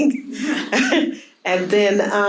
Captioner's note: audience laughing